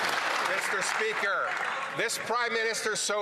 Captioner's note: some Applause